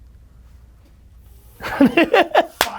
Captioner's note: laughs